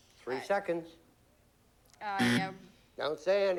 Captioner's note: buzzer